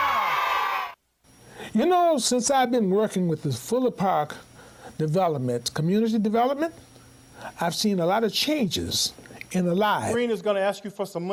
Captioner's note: applause